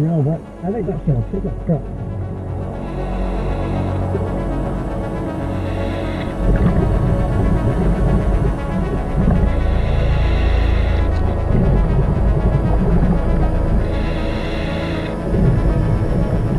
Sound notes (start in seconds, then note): 3.4 oxygen tank whooshing; 3.4 tranquil music rising